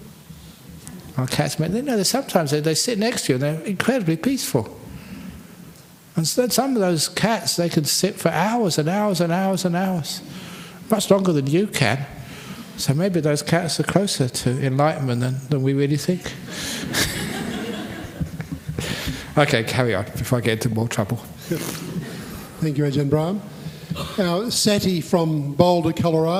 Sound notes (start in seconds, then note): 16.8 laughter